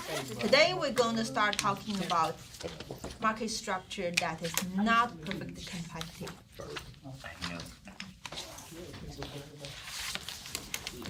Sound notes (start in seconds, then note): 7.9 students murmur